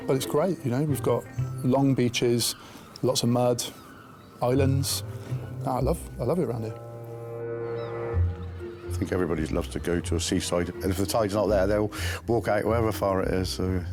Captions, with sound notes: But it's great, you know, we've got long beaches, lots of mud, islands. I love it around here. (gentle music) (seagulls squawking) - I think everybody loves to go to a seaside. And if the tide's not there, they'll walk out however far it is,